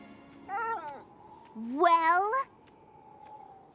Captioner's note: whimpers